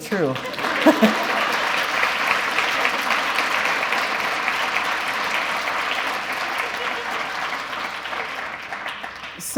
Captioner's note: applause